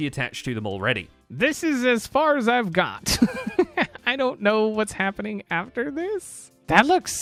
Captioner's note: laughs